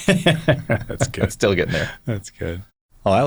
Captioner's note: laughs